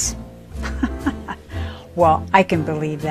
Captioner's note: laughs